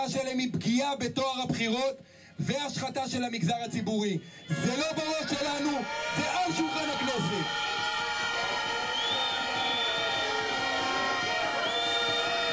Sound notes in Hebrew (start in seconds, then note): 7.1 קריאות הקהל